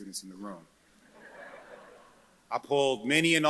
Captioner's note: audience chuckles